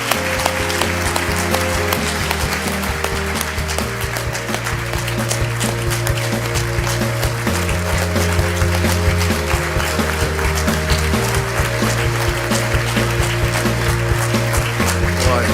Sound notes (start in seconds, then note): 3.3 applause